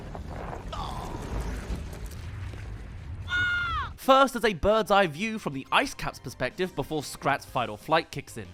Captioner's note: runs, screams